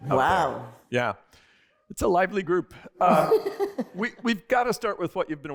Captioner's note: laughter